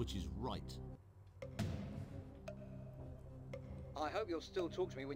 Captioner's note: clock ticking with intense music playing